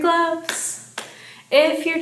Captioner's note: hands clapping